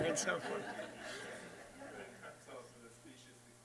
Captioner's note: laughter